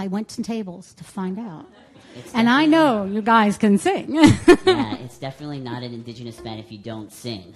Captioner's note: laughter